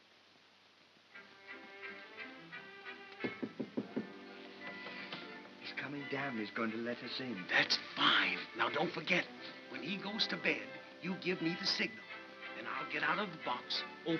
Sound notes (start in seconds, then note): 1.2 soft whimsical music; 3.2 knocks softly on box